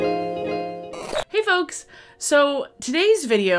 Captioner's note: static cracks